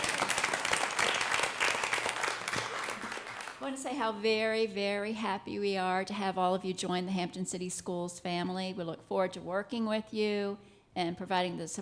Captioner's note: applause